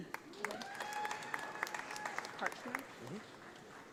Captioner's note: audience applauding